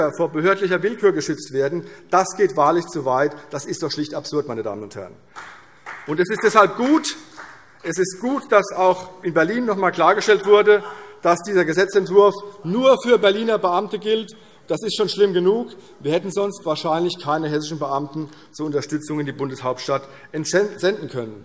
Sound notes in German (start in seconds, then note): 5.3 Vereinzelter Beifall CDU